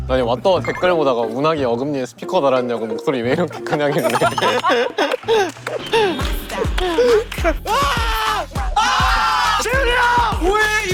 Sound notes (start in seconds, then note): 8.6 surprised voice: 241,015 times